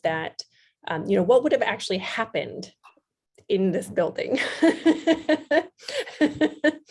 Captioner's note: laughs